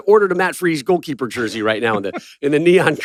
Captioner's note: laughs